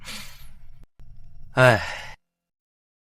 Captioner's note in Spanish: Suspiro